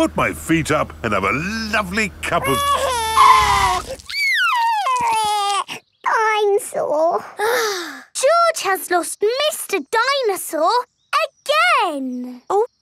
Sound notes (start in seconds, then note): 2.3 crying; 2.7 tires screeching; 7.7 sighs